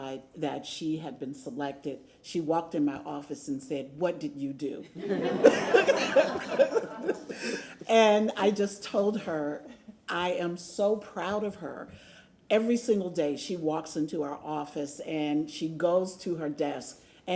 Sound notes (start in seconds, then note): 7.7 laughter